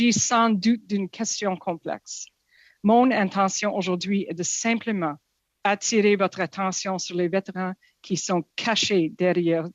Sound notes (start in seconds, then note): 5.4 speaking French